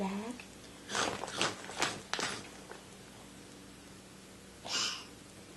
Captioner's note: chomping sounds